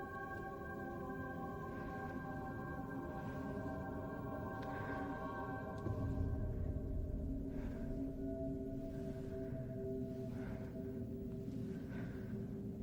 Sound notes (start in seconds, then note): 1.9 eerie music continues; 7.3 Louise breathing hard